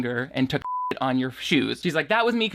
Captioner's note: beep